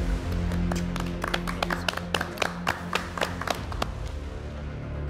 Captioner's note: judges clapping; tense suspense music continues